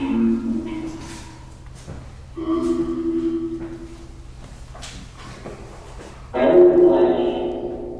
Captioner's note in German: APP talking in the background